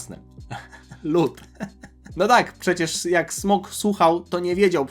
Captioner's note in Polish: śmiech